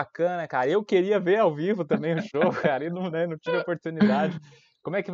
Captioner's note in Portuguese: risos